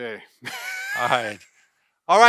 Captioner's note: laughs